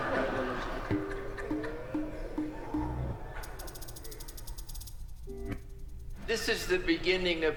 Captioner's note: effets sonores